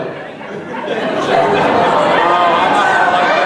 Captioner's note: crowd laughing